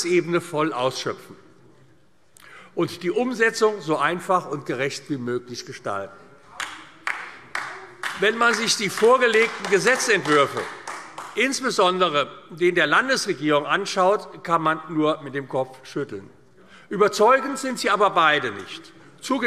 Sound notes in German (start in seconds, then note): 6.6 Beifall AfD